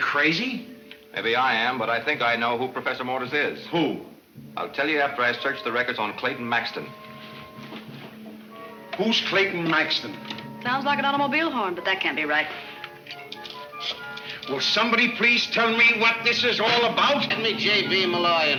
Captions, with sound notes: - Maybe I am, but I think I know who Professor Mortis is. - Who? I'll tell you after I search the records on Clayton Maxton. - Who's Clayton Maxton? - Sounds like an automobile horn, but that can't be right. (camera clicks) - Will somebody please tell me what this is all about? - Give me J.P. Malloy and fast.